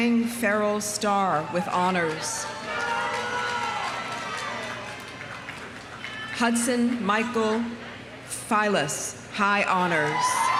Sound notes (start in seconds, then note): 2.0 audience cheering; 2.5 audience applauding